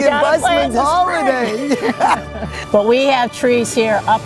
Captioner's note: laughing